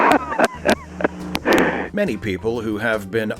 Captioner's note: Nixon laughs